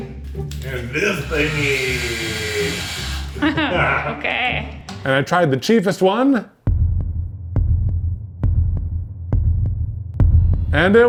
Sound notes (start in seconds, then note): 1.3 drill whirring; 3.3 laughs; 6.6 heartbeat pounding